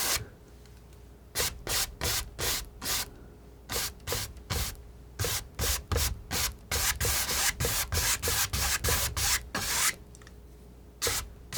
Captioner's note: scratching